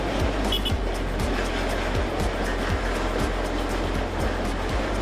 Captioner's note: car horn beeping